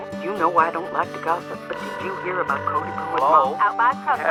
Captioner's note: phone ringing